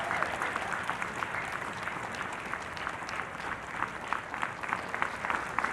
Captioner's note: everyone cheering and applauding